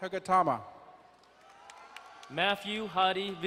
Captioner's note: crowd cheering and applauding